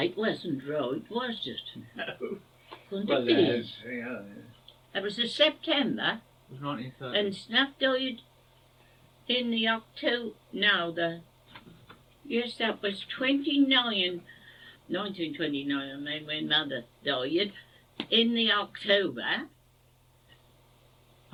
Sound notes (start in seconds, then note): 1.9 laugh